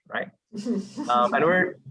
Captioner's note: chuckling